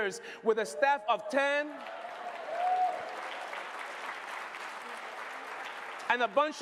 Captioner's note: applause